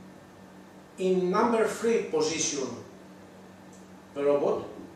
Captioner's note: none